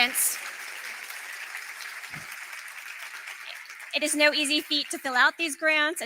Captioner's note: applause